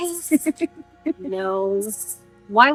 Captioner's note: laughing